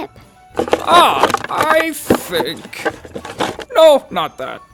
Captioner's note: stuff clattering